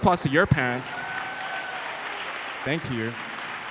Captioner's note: applauding